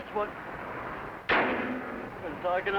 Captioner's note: hood slams